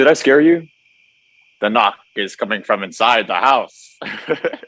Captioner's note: Joseph using scary voice; laughing